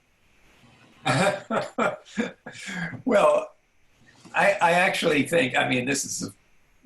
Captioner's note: laughs